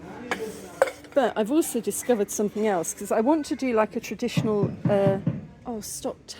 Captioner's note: tapping sound